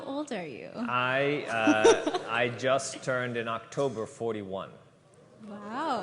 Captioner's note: laughter